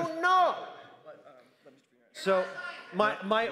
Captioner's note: crowd noise